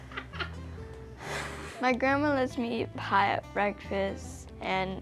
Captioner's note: laughs